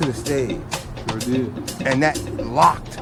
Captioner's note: voiceover